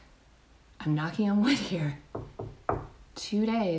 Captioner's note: knocks